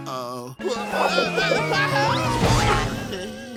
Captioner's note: screaming